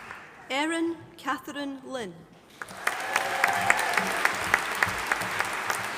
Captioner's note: audience applauding